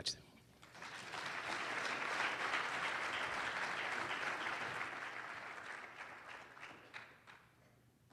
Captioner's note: applause